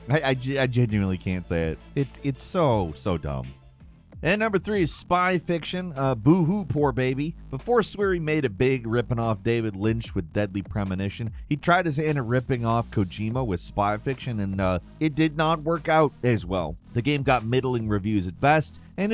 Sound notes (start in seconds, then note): none